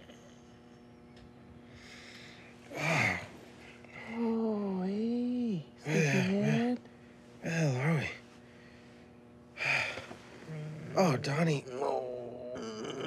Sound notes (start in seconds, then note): 2.7 Rufus groans; 5.8 Rufus grumbles; 10.4 Rufus sighs